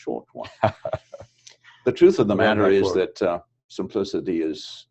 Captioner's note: laugh